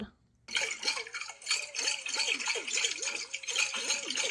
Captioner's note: water churns